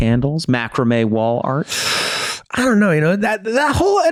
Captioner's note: Charlie inhales